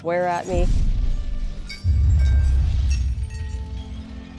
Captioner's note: breaking glass